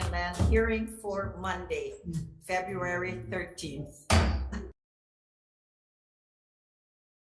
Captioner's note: gavel bangs